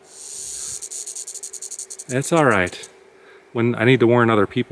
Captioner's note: snake rattles